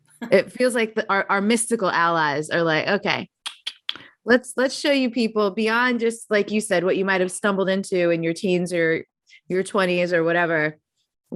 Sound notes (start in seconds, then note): 3.2 clicking